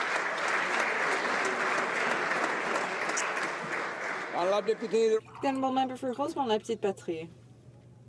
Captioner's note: applause